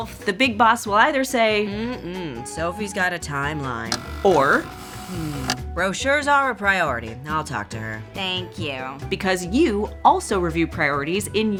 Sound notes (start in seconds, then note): 3.8 tape rewinding